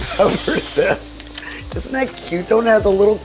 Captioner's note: laughs